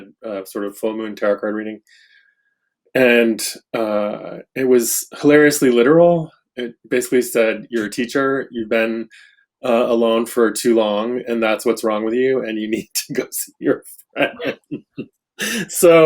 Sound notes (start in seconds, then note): 13.6 laughs